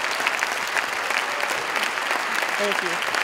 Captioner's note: Khán giả vỗ tay